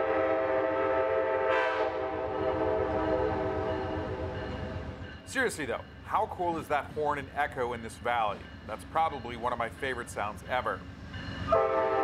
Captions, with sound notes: [train horn] Seriously though, how cool is that horn and echo in this valley?